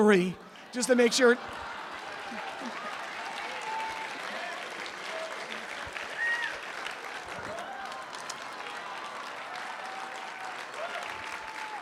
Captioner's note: applause